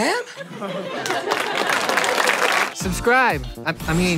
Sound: applause

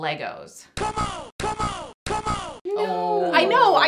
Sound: C'mon! C'mon! C'mon! Robotic sound effect

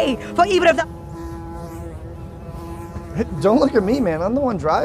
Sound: buzzing loudly

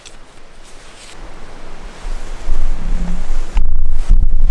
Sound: water flowing

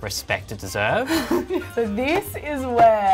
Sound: laughs

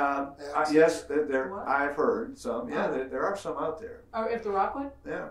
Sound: murmurs

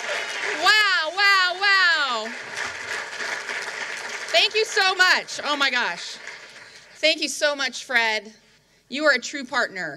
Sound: cheering

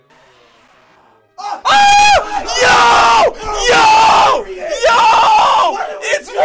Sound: screams

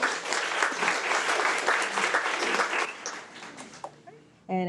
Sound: attendees applaud

